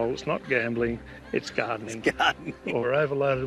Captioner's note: chuckles